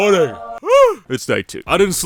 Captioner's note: yawns